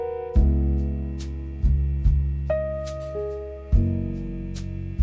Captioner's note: there’s also a low background hum from some unknown machine